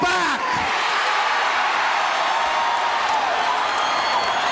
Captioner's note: audience cheering